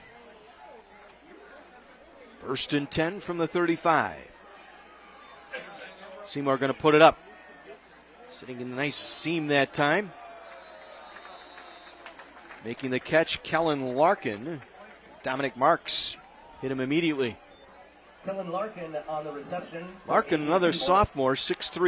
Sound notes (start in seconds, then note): 5.5 laughter